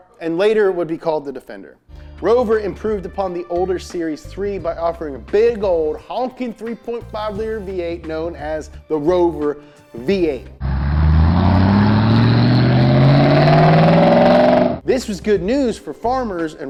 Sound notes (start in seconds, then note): 10.6 truck engine rumbles